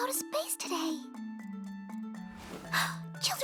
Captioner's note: gasp